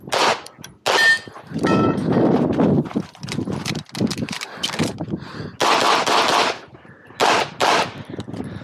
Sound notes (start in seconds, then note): 0.1 targets pinging; 3.6 gun clicking; 5.6 gunshots banging